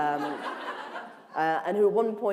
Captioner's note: laughter